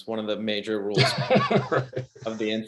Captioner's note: laughs